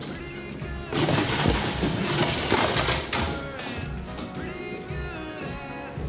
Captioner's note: chair clatters